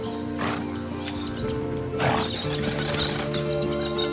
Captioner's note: horse snorting; birds tweeting